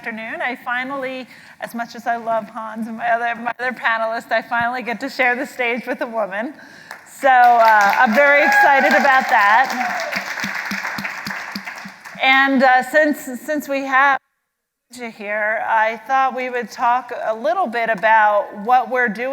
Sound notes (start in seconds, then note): 11.4 applause